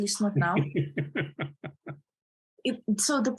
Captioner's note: laughing